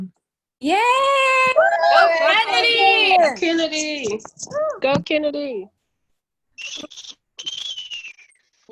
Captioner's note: cheering